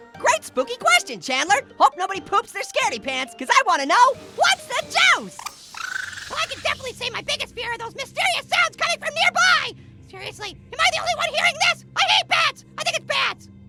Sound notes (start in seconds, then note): 5.2 bipping